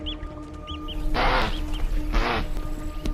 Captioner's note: squawking